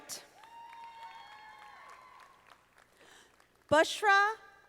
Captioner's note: audience applauding